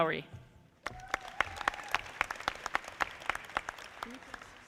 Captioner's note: audience clapping